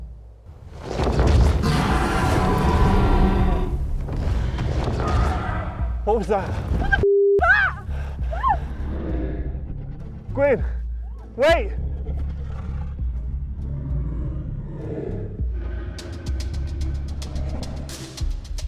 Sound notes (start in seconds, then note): 0.6 dragons growl; 14.7 dragon growls